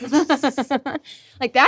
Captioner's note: laughing